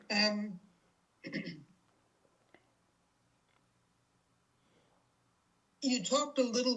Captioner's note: pauses 6 seconds